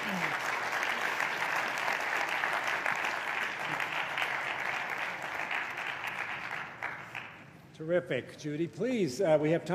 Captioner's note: applause